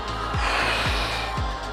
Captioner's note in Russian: Выдох